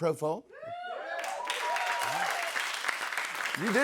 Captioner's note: cheers and applause